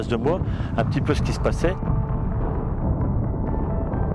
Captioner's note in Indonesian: suara pertempuran